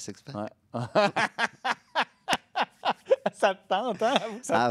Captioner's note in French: rires